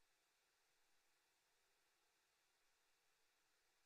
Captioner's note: none